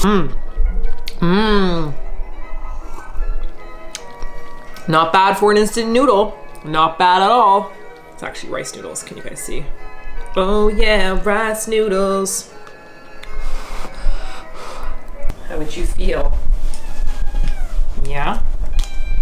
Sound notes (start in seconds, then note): 12.9 blows; 16.6 cat meows